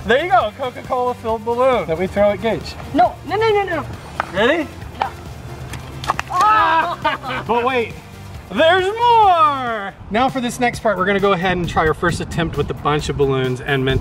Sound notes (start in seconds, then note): 6.4 splash